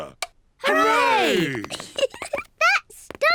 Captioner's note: giggles